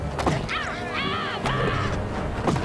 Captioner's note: thuds